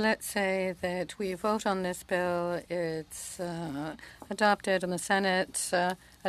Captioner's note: speaking French